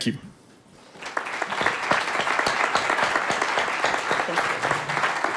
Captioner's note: audience clapping